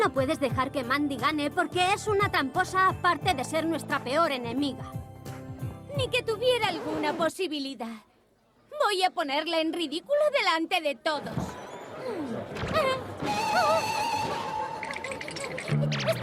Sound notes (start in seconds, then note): 5.3 mandy scoffing offscreen; 13.5 gasps